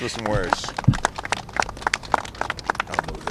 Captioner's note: applause